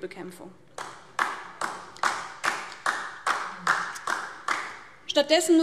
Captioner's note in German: Beifall DIE LINKE